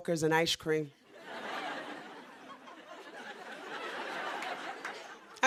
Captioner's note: laughter